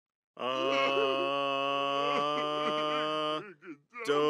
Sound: sobbing

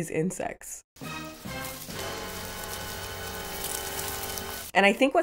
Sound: leaves rustling

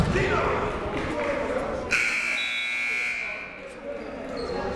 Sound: buzzer ringing

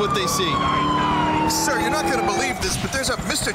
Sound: imitating police officer

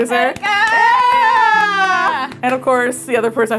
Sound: cheering

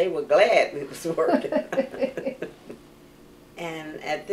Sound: laughter

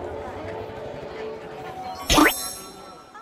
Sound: notification ding

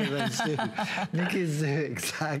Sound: laughter

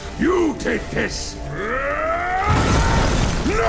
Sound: grunting

